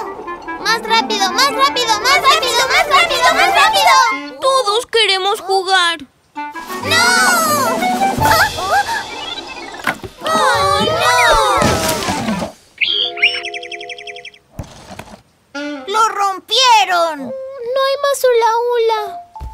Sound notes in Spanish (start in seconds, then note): 12.7 Sonido de pájaro